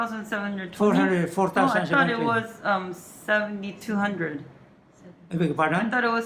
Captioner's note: chatter